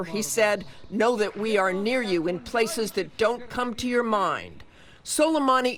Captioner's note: speaking foreign language